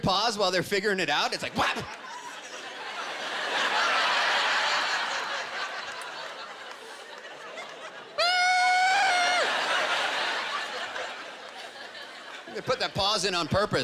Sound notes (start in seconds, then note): 1.4 laughter; 8.2 screaming